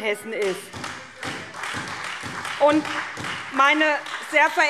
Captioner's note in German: Beifall SPD, Freie Demokraten und DIE LINKE